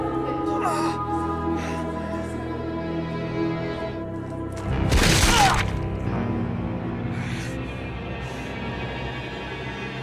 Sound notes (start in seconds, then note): 0.4 groaning and gasping; 4.8 brutalised kicking sound; 5.2 eddie screams and gasps